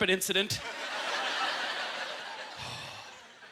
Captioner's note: audience laughter